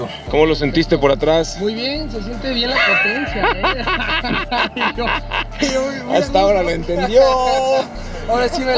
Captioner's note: laughter